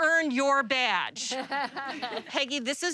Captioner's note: laughter